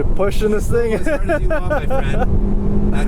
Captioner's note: laughs